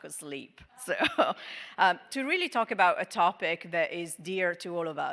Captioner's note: laughing